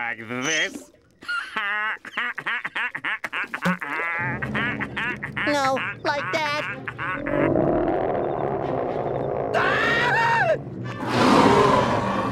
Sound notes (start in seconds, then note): 1.2 laughing; 7.1 roaring; 9.4 screaming; 10.9 roaring